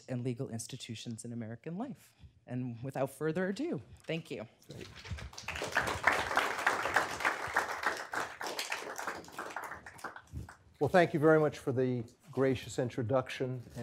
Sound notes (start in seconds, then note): 4.8 applause